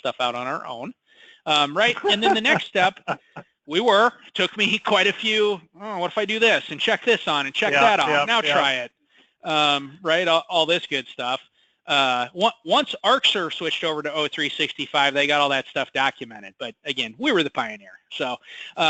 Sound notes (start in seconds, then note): 1.7 laughs